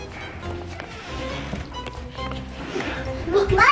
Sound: door creaks

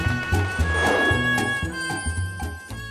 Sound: none

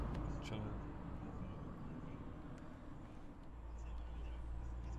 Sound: car engines humming past

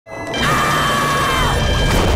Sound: screaming

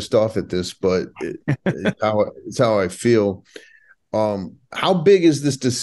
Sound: laughing

